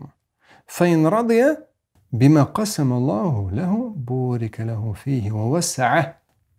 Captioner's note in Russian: Говорит на арабском